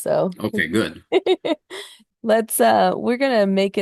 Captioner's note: laughs